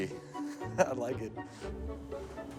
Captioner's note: chuckles